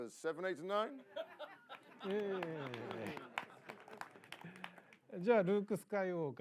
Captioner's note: laughter, light applause